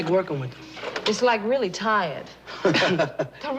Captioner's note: laughter